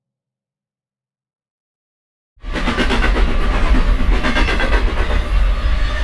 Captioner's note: train running over tracks